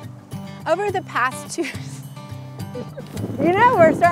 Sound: laughs

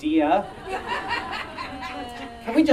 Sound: audience Laughing

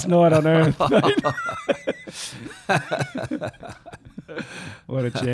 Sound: laughing

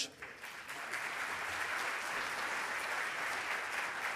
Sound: audience applauding

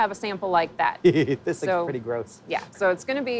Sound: laughs

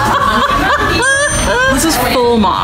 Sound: laughs

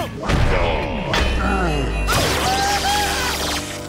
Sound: groaning

